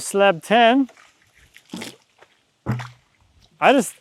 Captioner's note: water splashing